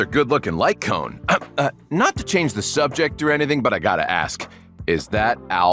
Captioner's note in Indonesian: Ehem